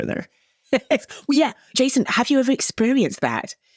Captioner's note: chuckles